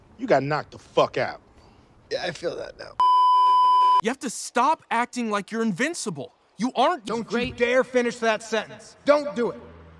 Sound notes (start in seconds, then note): 3.0 beeeeeeeeeeeep